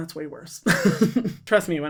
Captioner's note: laughs